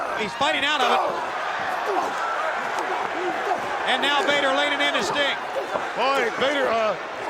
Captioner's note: applause